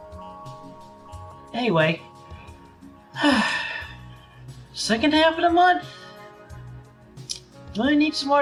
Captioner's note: sigh